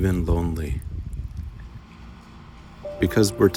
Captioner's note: wind howling